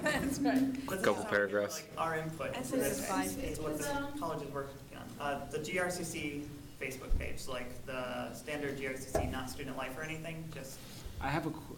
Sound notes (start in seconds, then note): none